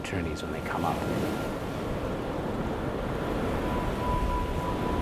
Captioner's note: waves crashing